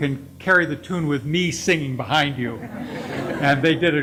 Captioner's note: laughing